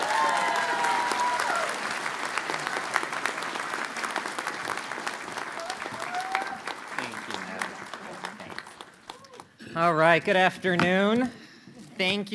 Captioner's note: cheers and applause